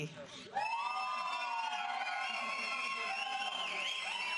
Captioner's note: audience applauding